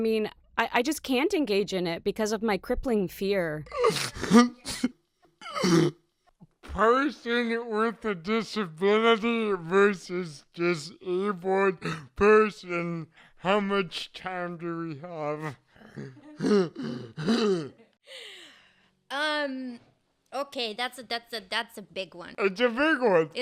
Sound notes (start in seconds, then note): 3.7 laughs; 15.8 chuckles